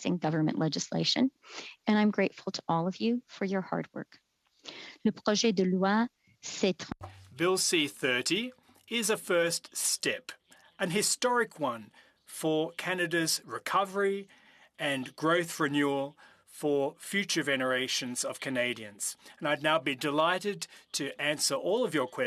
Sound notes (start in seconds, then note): 9.9 speaking French